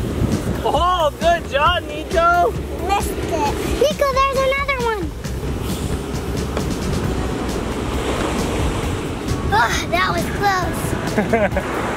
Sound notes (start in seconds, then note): 5.6 waves crashing in the background; 11.1 laughing